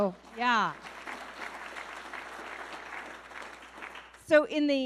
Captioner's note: audience clapping